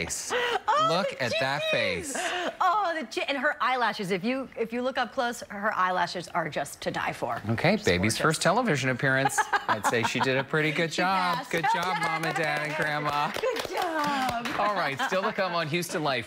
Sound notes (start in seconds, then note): 3.0 laughter